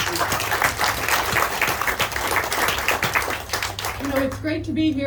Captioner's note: audience clapping